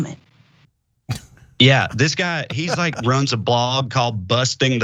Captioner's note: laugh